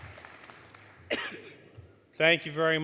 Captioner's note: applause; cough